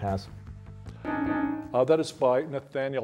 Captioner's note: bell dings